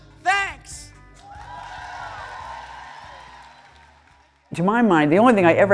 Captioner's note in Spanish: público aplaude